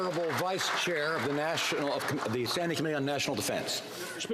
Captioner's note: some Applause